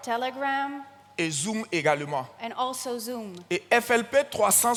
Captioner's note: continues in French